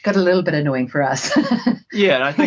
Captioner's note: laughing